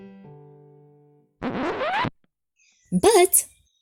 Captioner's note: record scratching